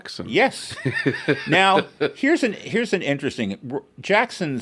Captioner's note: laughs